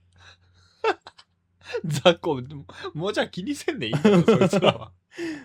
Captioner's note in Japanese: 笑い